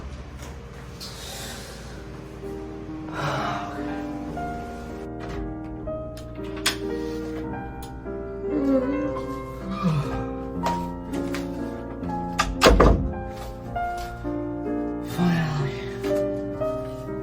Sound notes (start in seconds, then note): 1.2 deep sigh; 8.4 yawns